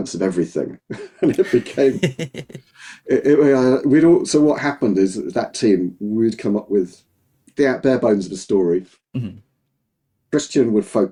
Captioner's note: both laughing